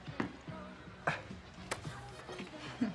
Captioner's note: Jim chuckles